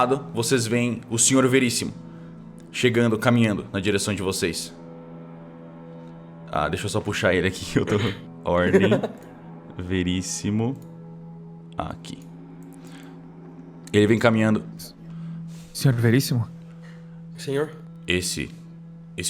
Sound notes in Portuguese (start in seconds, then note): 8.6 risada